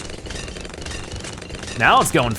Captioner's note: weapons firing